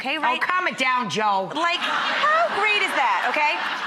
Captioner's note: laughter